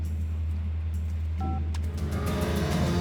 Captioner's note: phone beeps